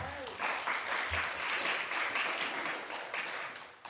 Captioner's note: applause